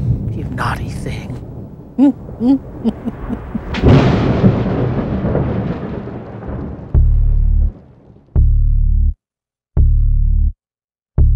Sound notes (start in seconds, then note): 2.4 laughs; 4.0 thunder crashes